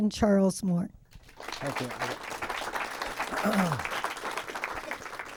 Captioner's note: applause